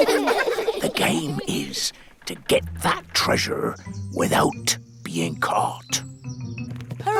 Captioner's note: all giggle; whispers